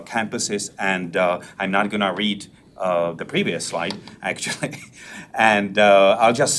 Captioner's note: laughs